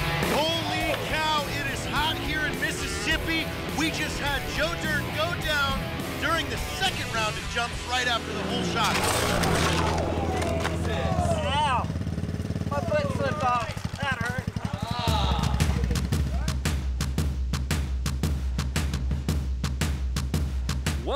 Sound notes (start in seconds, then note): 8.8 clattering sound; 14.4 intense percussion